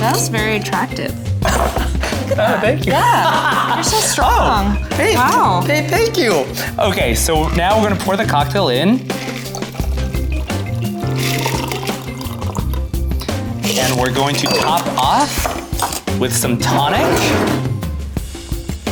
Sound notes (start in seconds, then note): 1.4 laughs